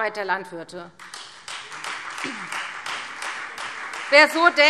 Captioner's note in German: Beifall Freie Demokraten